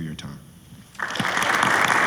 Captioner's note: applause